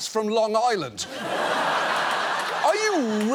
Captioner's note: studio audience laughs